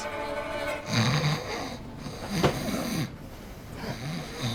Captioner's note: snoring